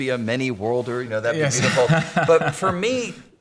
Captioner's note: laughing